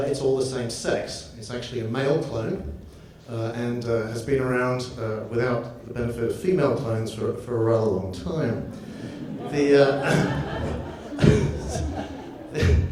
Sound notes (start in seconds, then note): 8.4 audience laughs; 8.6 laughs